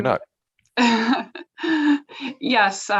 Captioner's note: laughs